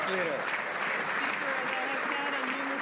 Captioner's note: some Applause